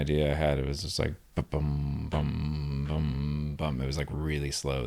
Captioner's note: hums